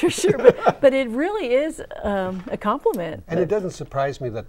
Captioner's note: laughing